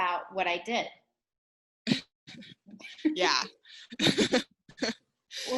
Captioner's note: giggling lightly